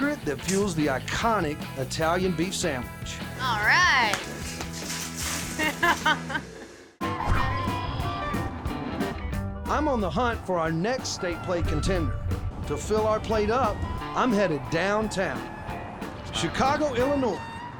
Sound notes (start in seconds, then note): 3.8 stones scattering